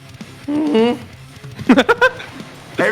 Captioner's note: laughs